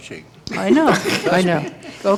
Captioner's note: laughter